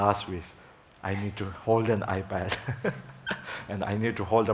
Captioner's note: laughing